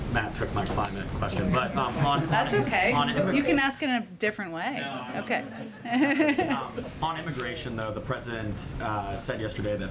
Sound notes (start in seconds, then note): 5.2 laughter